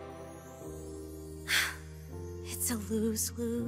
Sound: sighs

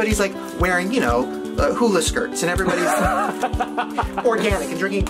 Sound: laughs

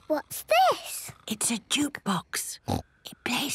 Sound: whispering

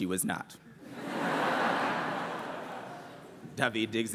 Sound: laughter

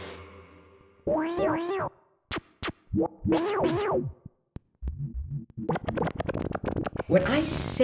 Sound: modulated voice; distortion sound effects; modulated voice

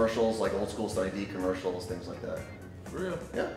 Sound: murmurs

